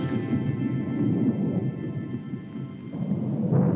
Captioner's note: thunder rumbling